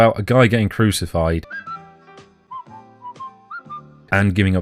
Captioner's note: whistling